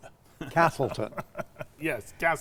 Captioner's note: laughing